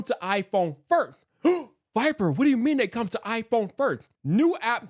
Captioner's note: gasp